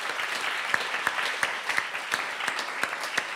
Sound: applause

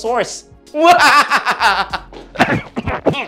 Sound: laughing menacingly

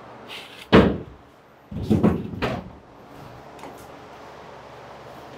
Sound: boards thumping together

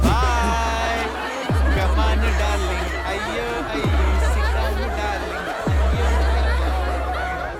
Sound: students Laugh in the background; humming Kannada Song; continous laugh in the background

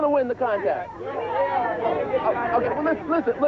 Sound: group chattering

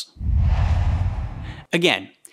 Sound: logo swooshes

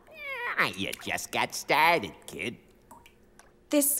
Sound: meowing

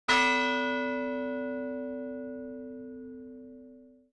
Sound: bell peals

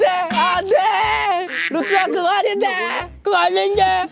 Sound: shouting in the back

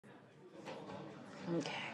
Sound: people chattering

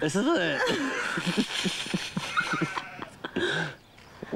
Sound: laughs

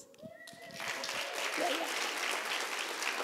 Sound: applause

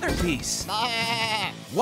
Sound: baaing

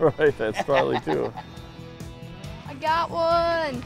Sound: laughing

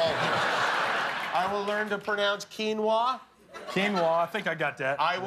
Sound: laughter

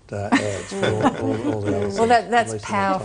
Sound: laughter

